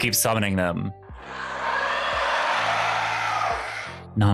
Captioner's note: crowd cheering